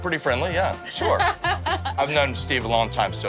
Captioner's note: laughing